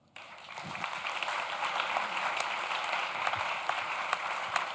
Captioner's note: audience claps